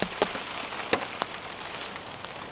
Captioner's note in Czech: zvuky deště